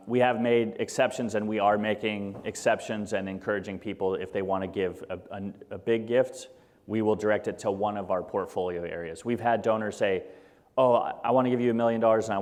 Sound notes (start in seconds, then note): none